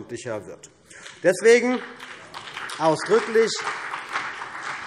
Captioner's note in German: Beifall CDU und BÜNDNIS 90/DIE GRÜNEN